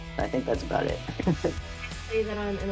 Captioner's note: laughing